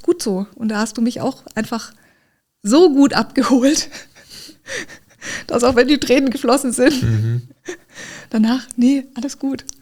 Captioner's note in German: gelächter